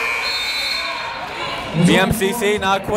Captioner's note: buzzer blaring